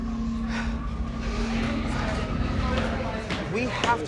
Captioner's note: object clattering; people chattering; person panting